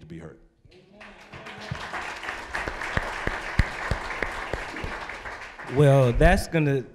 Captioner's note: applause